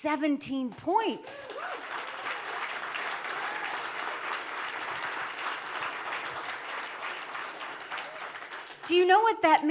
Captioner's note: applause